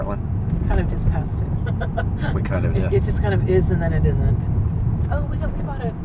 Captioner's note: chuckles